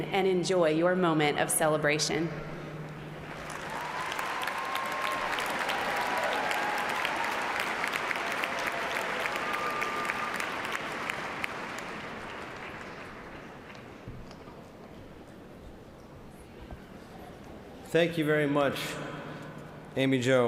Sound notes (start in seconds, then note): 8.7 cheers and applause